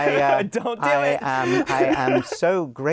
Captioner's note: laughs